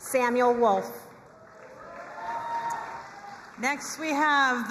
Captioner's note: crowd cheering and applauding